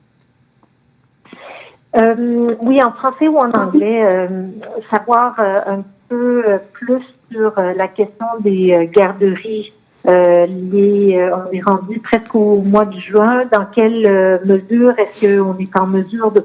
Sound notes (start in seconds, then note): 4.2 speaking French